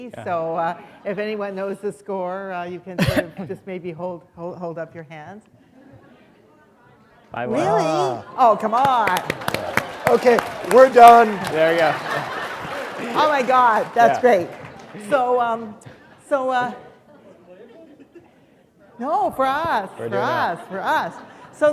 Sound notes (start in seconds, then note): 8.7 applause; 14.2 laughter